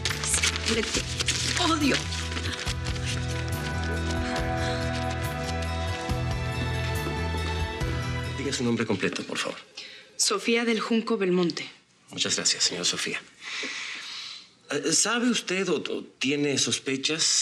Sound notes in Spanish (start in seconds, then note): 4.7 ruido al romper invitación